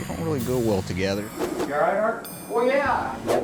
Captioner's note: image whooshing